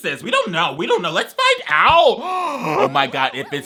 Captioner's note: gasps